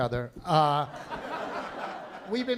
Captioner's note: laughter